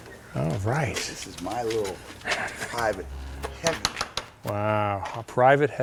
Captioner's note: rev